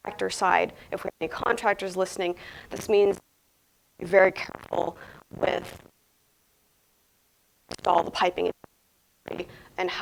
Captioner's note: audio cuts in and out for a brief time